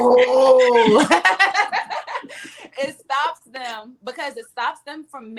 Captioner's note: ladies laughing